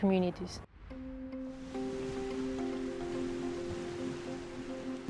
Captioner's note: gentle music; waves murmuring